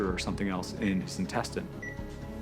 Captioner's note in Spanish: pitido rápido